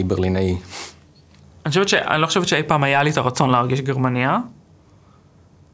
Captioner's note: Hebrew